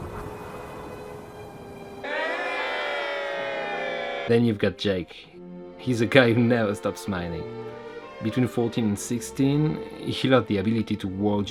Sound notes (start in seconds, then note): 2.0 people cheering